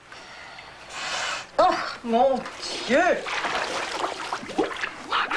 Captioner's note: sniffing